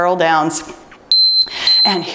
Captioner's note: timer beeping